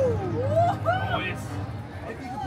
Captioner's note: guest cheering